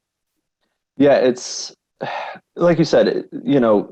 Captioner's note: sighs